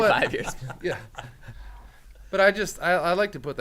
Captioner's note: men laughing